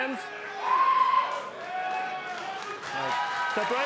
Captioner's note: audience cheering